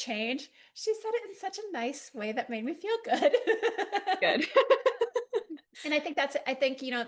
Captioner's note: both laugh